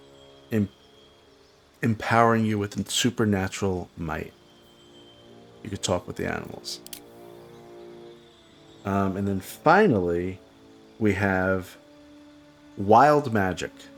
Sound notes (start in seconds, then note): 6.7 silence